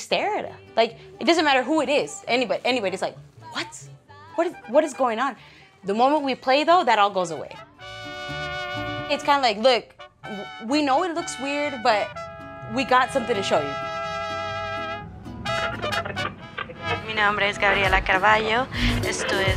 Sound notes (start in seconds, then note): 16.5 static crackling; 17.4 speaking Spanish